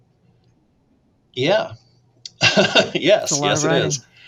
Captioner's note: laughs